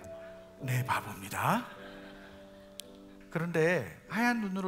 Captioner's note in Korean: 웃음